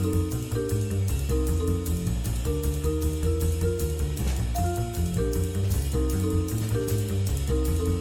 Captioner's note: none